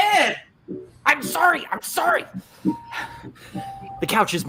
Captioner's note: exhales